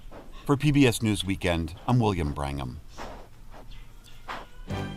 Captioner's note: voice-over